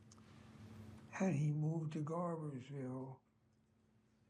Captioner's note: dialogue fades